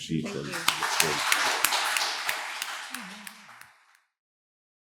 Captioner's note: audience applauds